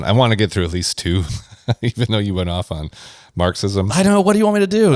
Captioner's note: laughs